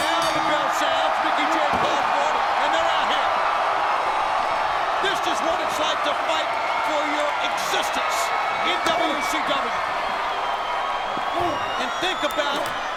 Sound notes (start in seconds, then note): 3.9 audience roars; 11.0 Goldberg and Hennig grunt